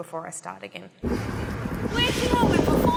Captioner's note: wind rushing